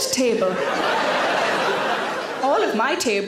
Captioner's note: audience laughs